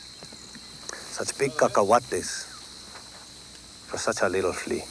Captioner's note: speaks Spanish